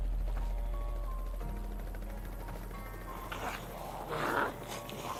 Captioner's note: helicopter blades whirring